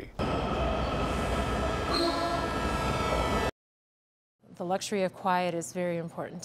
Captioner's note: train on rails and honking